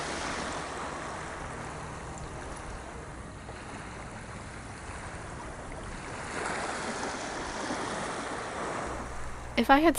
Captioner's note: ocean sounds